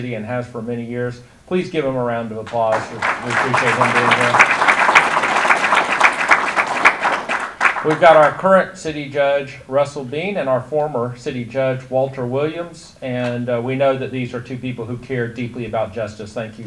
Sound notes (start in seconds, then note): 4.7 audience applause